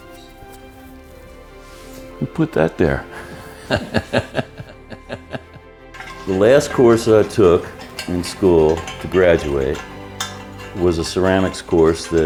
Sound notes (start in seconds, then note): 2.9 laughs